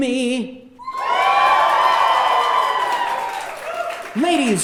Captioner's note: audience cheering